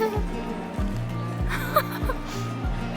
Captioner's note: laughter